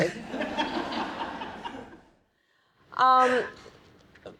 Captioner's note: audience laughing